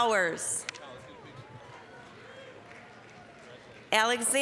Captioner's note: applause